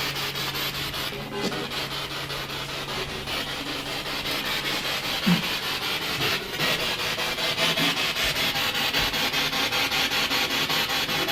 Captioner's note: radio noise from the spirit box